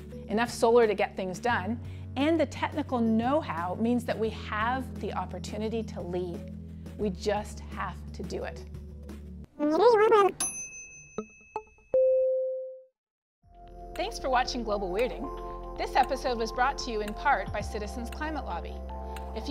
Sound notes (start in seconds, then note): 10.4 bell chimes; 11.1 electronic tones